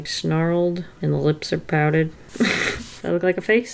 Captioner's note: laughs